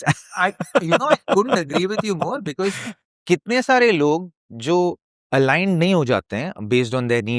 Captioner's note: laughter